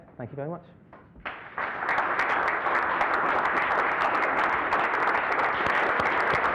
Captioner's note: applause